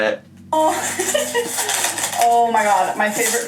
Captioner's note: wrapper scrunching; chuckles